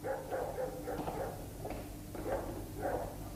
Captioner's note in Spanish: Pasos acercándose